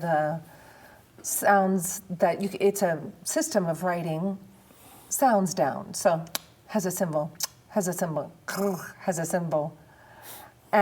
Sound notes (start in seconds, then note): 6.1 clicks tongue; 7.4 smooches; 8.3 rolls R